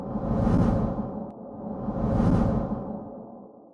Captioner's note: whooshing